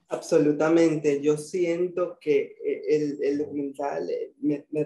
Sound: speaking in foreign language

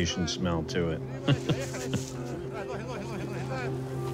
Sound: laughs

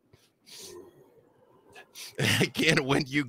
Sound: growling; laughs

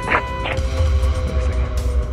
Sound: truck horn beeping

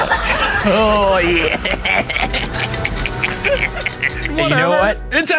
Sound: laughing

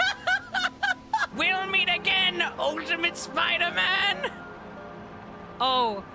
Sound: laughter; Ultimate Green Goblin Voice

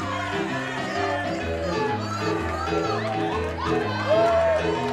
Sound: crowd chants and claps

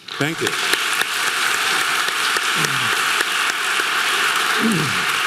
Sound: audience clapping

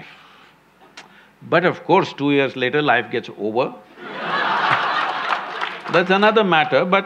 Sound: laughter

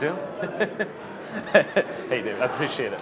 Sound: laughter

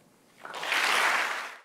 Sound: applause

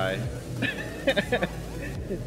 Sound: chuckles

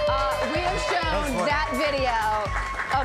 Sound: cheers, applause

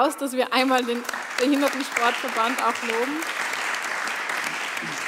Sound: applause

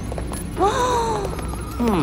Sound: Ginger gasps

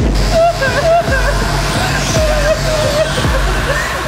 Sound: sobbing

